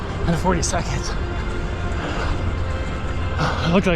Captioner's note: sighs